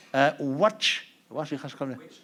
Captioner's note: non-english speech